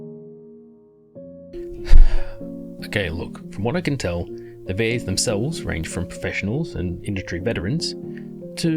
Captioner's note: sigh